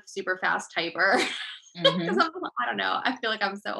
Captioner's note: laughing